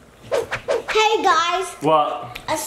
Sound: whoosh

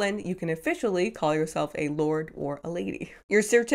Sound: none

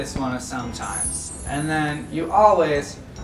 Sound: chimes

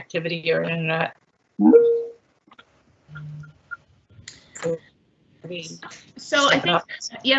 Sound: computer beep

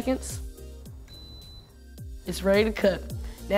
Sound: Instapot beeps

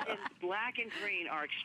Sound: laughter

